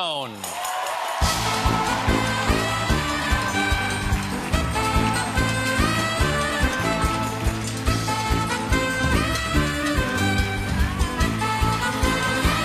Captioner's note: cheers and applause; band playing